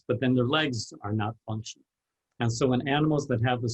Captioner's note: none